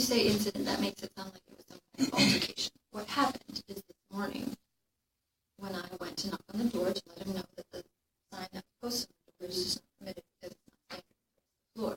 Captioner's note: distorted recording